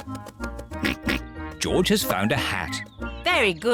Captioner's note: oinks